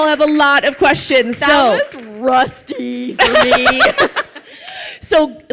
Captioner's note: laughs